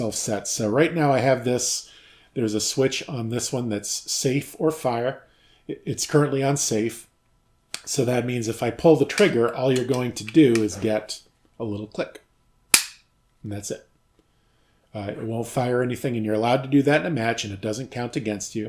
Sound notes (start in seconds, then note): 14.1 click